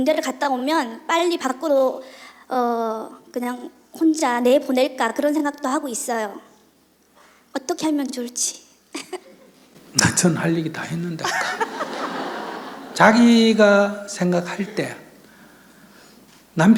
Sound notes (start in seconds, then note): 9.0 questioner Laughter; 11.2 questioner/Audience Laughter